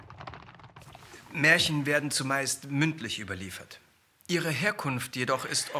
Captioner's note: speaking in foreign language